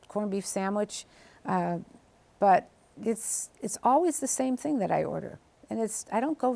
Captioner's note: none